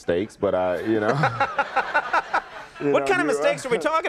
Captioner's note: crowd laughing